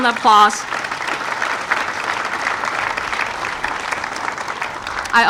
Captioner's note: audience applauding